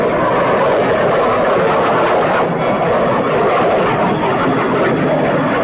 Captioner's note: plane engines roaring